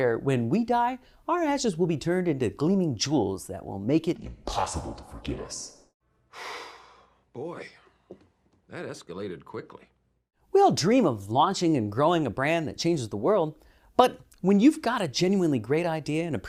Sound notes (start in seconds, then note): 6.3 sigh